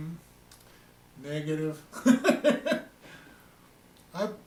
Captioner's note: chuckling